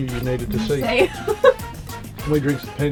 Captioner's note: laughs